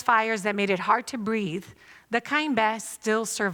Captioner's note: non-english speech